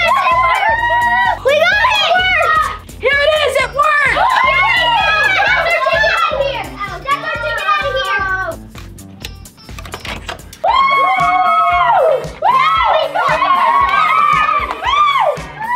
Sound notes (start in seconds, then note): 4.6 kids cheering; 10.5 kids cheering